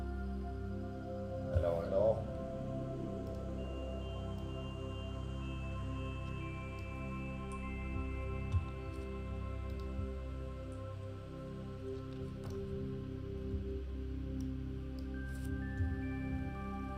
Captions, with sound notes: Hello, hello? (gentle calming music continues) (mouse clicking)